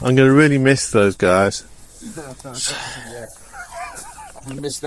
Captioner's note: laughter